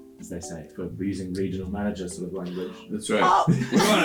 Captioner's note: laughter